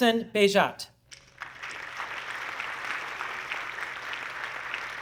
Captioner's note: audience clapping